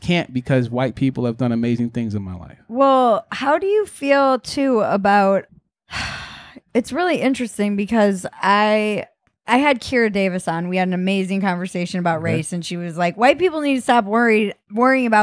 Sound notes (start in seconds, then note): 5.9 sighs